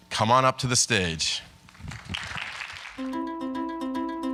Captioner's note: applause